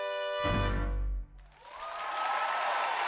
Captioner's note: audience cheering